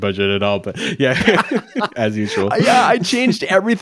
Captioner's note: chuckling